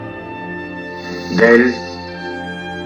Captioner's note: mournful and reflective music; voiceover of man speaking in french